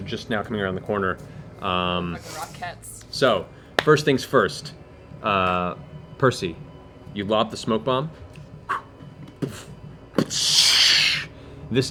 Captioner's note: thud, hiss